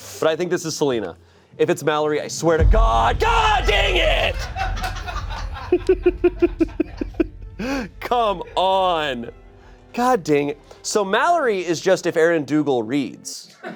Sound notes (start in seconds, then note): 4.1 everyone laughs